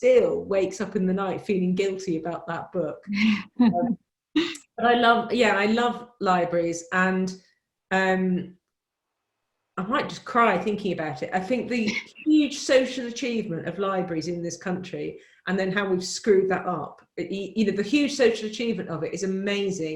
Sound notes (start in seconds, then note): 4.0 laughs